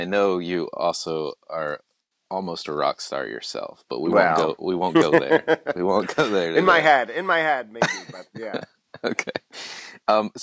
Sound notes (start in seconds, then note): 4.9 laughs; 9.0 laughs